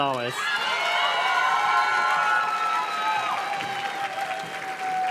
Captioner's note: audience cheers and claps